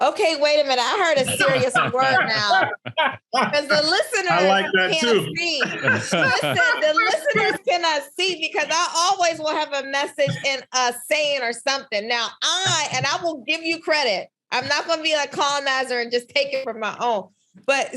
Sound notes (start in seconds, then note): 3.3 both laughing